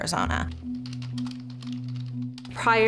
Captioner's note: keys tapping